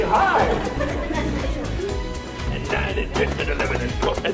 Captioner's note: laughing